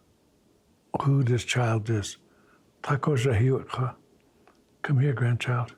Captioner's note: speaking in Lakota